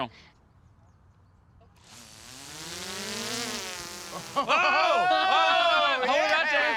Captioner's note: drone buzzing, cheering